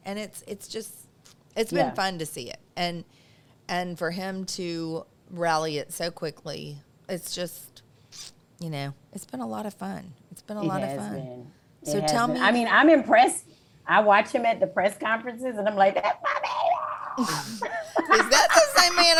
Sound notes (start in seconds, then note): 16.0 laughs